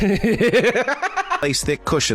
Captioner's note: laughs